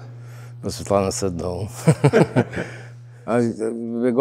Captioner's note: both laughing